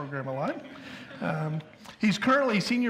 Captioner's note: audience chuckles